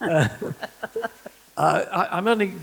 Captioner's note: laughter